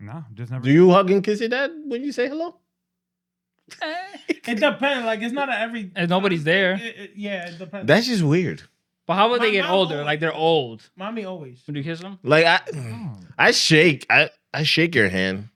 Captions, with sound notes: Nah, I'm just never-- Do you hug and kiss your dad when you say hello? (Laughing) It depends, like it's not every-- And nobody's there. Yeah, it depends. That's just weird. But how would they get older? Like they're old. Mommy always. When you kiss them? Like I shake, I shake your hand.